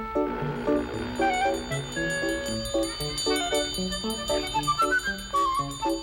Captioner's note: bell ringing